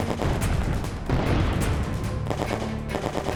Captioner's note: tense music; bomb exploding; gunshots firing